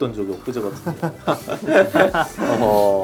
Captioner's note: haha